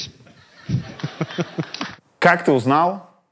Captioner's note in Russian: смех